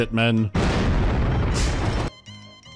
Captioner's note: boom